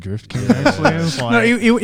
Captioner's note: laughs